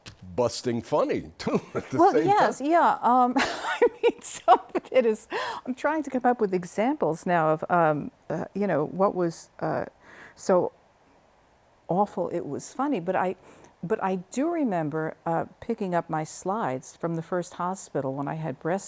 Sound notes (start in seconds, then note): 3.3 laughter